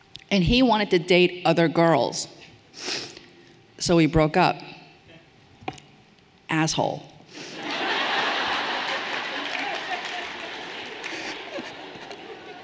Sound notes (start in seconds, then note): 7.6 everyone laughing cheerfully